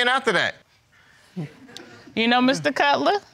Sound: audience chuckles

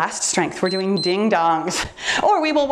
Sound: timer beeps

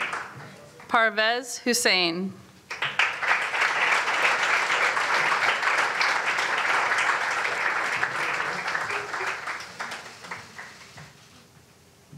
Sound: applause

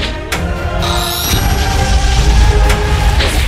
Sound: explosion booming; upbeat tense music

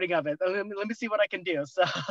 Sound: laughter

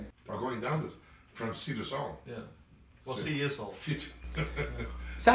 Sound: band Conversing

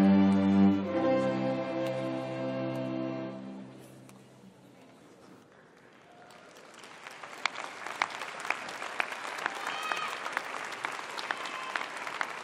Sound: applause

